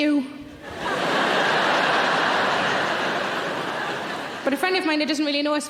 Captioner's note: audience laughing